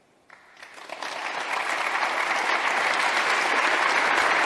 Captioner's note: clapping